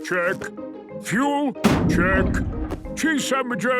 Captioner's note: bangs